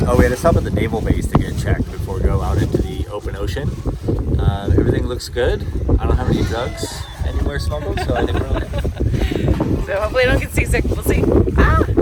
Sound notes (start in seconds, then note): 7.7 laughter; 9.9 laughing